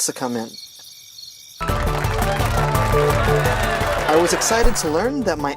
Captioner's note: applause